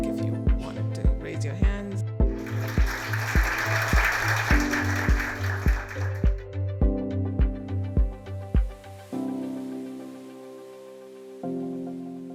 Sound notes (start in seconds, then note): 2.3 applause